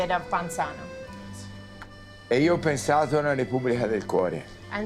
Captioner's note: Dario speaking Italian